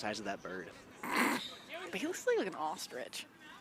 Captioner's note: chuckles